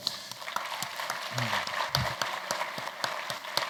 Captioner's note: applause